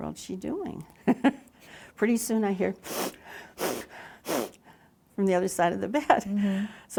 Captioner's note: makes sniffling sounds